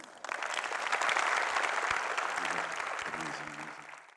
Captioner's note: audience clapping